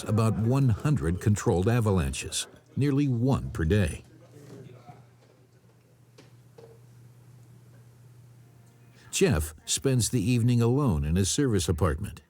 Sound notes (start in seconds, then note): 4.2 people chattering